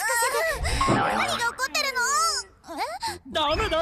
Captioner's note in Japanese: 奇妙な電子音